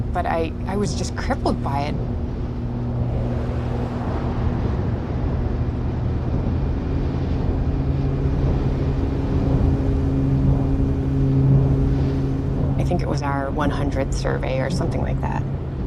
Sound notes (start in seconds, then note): 3.1 engine whirring